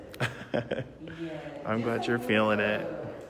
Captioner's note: laughing